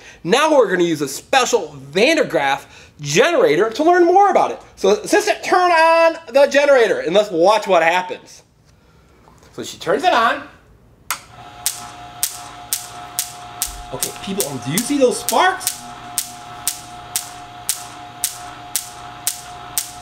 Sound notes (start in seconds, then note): 11.3 electric spark noise